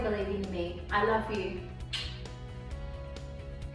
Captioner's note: kiss